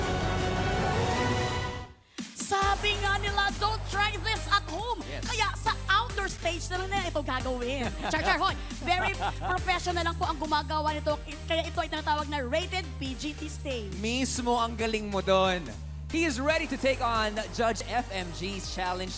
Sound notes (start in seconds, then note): 7.7 laughs